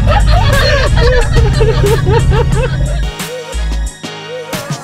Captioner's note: laughs and screams